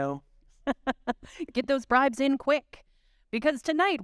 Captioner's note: chuckling